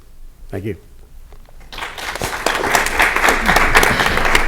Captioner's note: applause